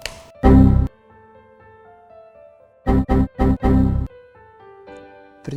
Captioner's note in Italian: suoni d’errore del computer